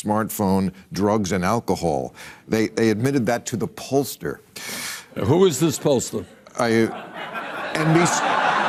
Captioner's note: laughter